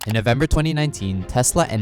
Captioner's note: cursor clicking